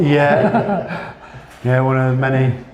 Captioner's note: laughter